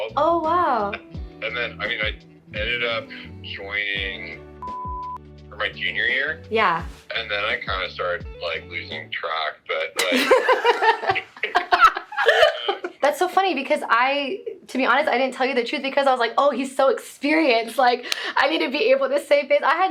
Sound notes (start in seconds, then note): 4.6 beep; 10.0 women laughing